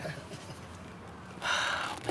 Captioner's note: both laugh